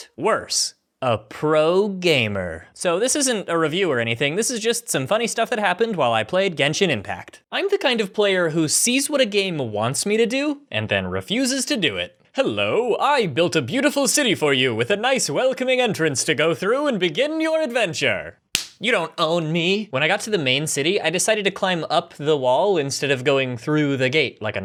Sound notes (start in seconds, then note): 18.5 smack